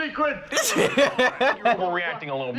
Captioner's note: laughing